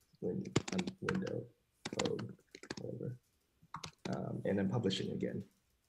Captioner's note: typing drowns out